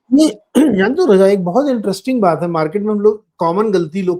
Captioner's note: clears throat